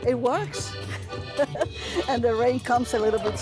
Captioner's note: laughs